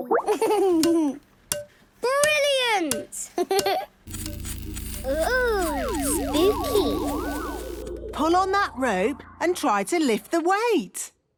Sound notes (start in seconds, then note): 4.0 pulsing